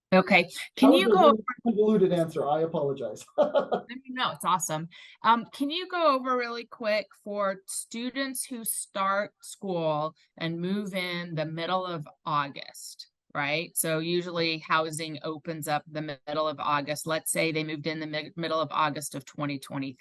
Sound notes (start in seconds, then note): 1.3 faintly speaking; 3.7 laughs